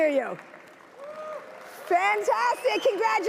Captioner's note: certified users cheer loudly